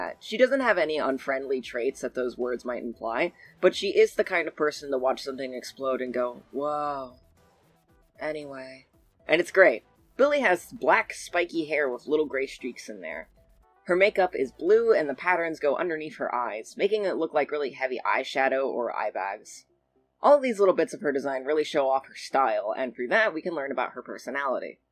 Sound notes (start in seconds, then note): 6.0 in a very apathetic voice; 8.3 back to normal speaking